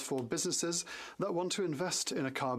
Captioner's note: speaking french